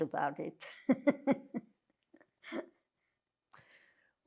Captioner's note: laughing